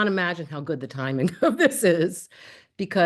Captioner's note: laughter